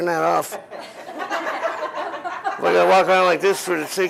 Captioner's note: laughter